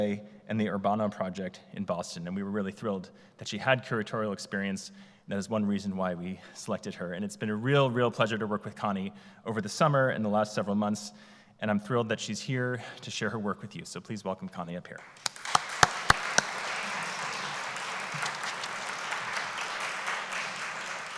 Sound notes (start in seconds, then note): 16.4 applause